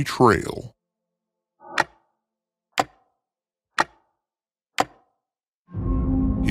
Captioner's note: clock ticking